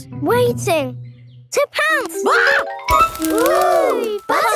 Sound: screams

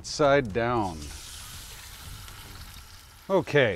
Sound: fish sizzling

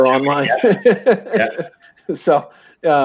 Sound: laughs

